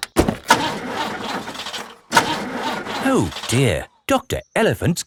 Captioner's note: engine sputtering